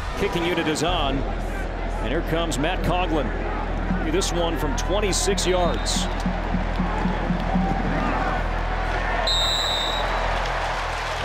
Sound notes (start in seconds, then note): 6.4 crowd cheering; 9.2 referee blows whistle